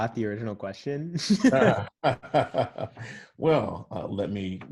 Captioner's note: laughs